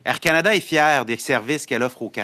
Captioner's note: speaking French